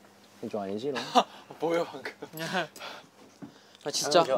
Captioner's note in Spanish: Jajaja